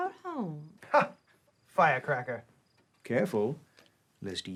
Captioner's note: laughs